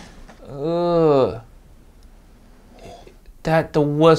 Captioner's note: Uncle Roger groans